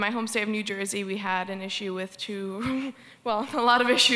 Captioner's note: laughs